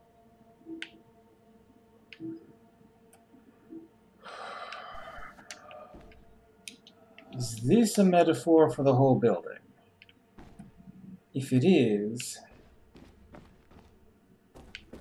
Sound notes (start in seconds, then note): 4.2 sighs